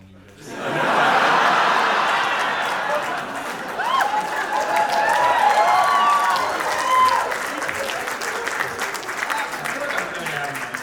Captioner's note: big audience laugh and cheer